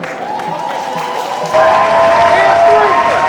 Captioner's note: crowd Cheering